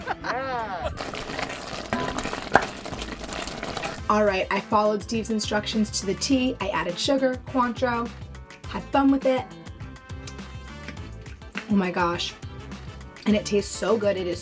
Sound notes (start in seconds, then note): 0.9 cranberries sizzling; 9.8 gentle music